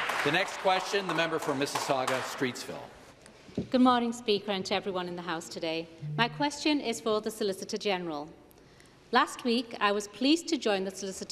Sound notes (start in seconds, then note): 2.9 some Applause